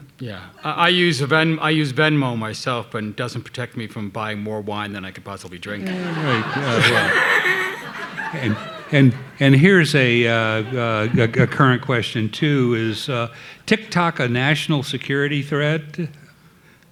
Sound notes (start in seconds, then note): 5.8 laughing; 5.9 audience laughing